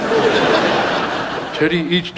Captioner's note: audience laughs